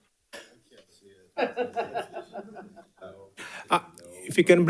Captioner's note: participants laughing